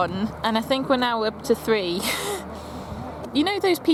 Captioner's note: chuckles